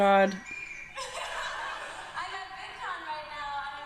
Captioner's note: audience laughing